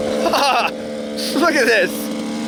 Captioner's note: laughs